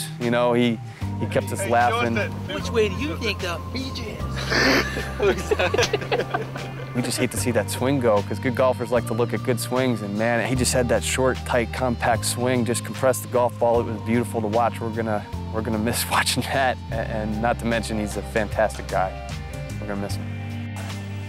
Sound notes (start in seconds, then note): 4.4 lalaugughthterer